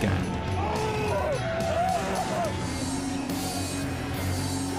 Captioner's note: screams and cries